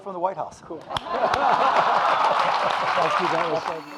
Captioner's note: audience laughing